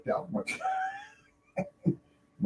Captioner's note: laughter